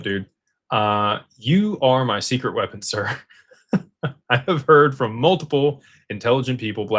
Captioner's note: laughter